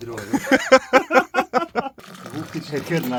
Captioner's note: hahaha